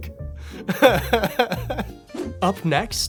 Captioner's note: laughing